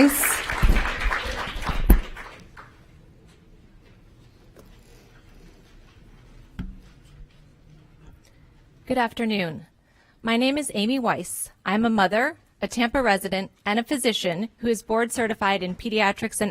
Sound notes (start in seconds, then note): 3.6 applause